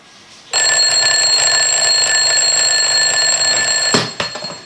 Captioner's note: alarm ringing